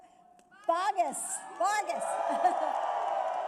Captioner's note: applause